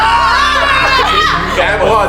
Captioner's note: monstrous roar; general screaming